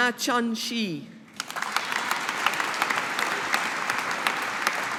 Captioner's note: audience applauding